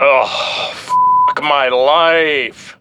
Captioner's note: beep